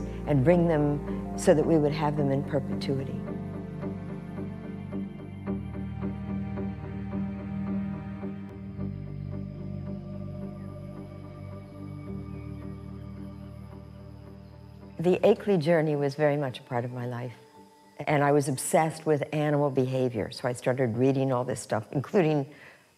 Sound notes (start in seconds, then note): 4.6 spherical music; 10.0 crickets chirping